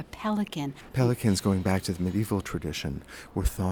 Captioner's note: voiceover